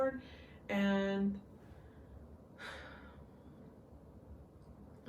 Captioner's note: sighs